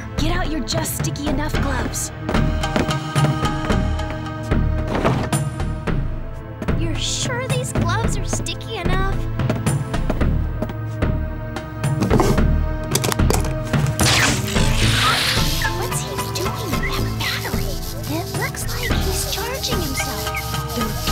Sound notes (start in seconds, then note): 2.2 footsteps; 14.2 machine sounds